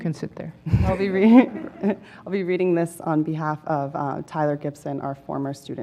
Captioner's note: laugh